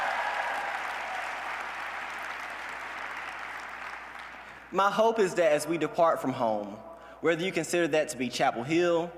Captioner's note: cheers and applause